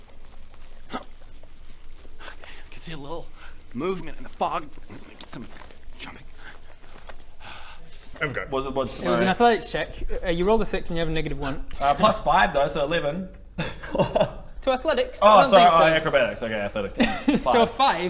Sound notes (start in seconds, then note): 0.6 hrgh